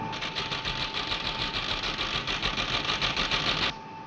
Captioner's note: machine printing